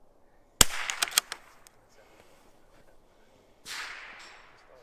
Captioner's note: rifle fires; rifle bolt chambers; rifle fires